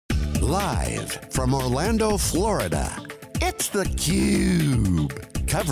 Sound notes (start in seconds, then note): 0.1 funky music; 0.7 narrator voiceover